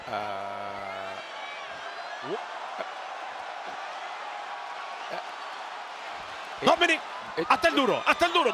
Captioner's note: applause